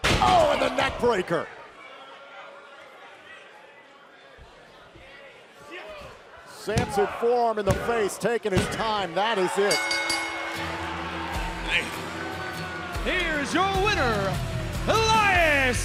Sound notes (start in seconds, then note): 9.7 bell ringing; 10.8 crowd cheering